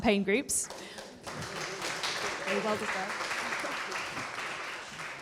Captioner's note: audience applauding